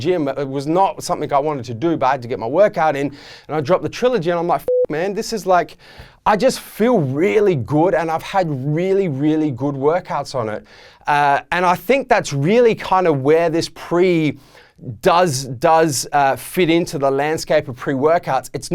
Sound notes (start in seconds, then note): 4.6 beeping